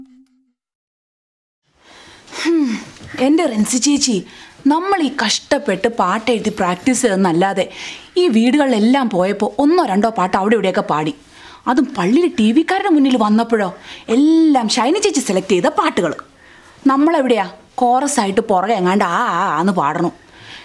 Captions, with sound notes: [sighs] Rincy Chechi, We took the effort to write all those songs and practice, And when we went to the houses, we just sang a couple of them! And when it came to the TV folk at the church, all of them were Shiny Chechi's selection! Where are we? Singing chorus in the back.